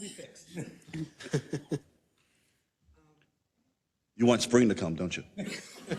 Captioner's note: laugh; laugh